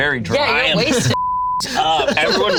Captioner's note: beep